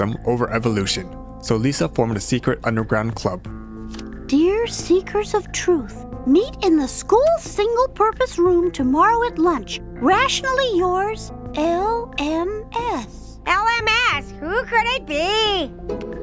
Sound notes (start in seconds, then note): none